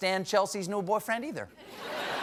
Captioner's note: laughter